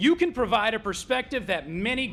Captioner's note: none